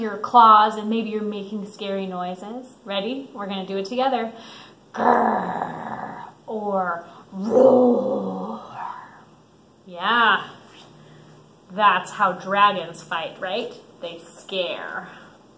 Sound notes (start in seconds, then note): 4.9 growling; 7.3 roaring